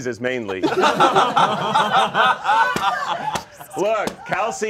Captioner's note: all laughing